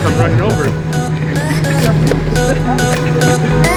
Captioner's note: laughing; electro-pop music